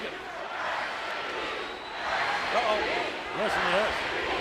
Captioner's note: crowd cheering